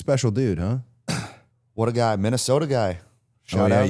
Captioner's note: exhales